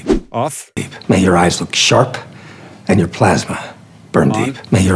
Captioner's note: movie dialogue plays